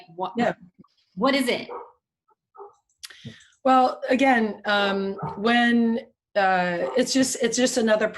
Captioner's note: barking off-screen